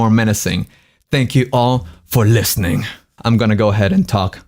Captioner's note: deep voice